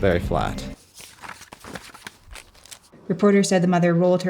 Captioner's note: papers rustling